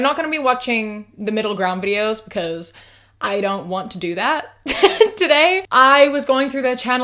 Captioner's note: laughs